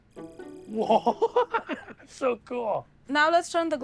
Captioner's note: chuckles